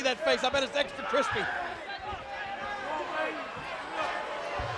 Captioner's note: crowd chattering